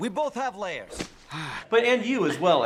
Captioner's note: onion hits ground; Shrek sighs